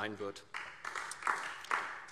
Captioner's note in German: Beifall DIE LINKE